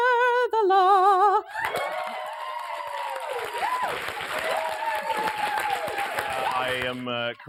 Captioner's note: applause